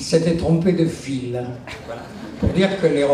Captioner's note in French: rires dans la salle